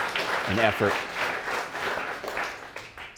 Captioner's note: audience applauding